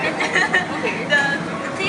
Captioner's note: laughter